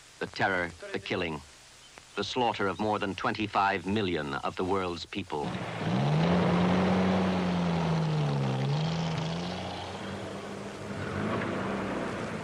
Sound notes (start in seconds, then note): 5.4 truck engine revving